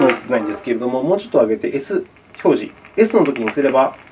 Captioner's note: static